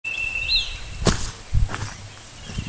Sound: footsteps

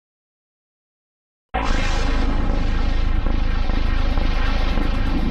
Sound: deep digital heartbeat

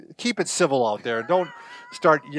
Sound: laughs

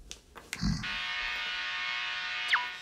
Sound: grunts

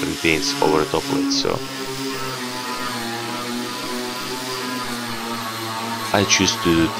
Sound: grinding sound

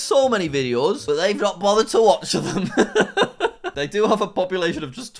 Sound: laughs

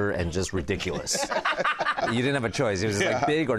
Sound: laughter

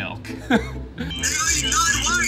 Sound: laughs

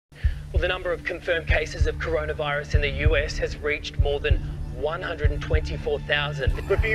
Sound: english radio broadcast; russian radio broadcast

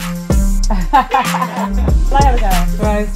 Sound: laughing

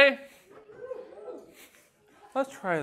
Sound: weak cheers

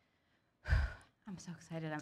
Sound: sighs

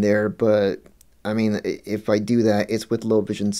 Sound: none

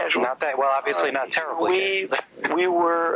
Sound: laughs

